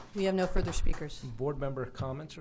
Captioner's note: applause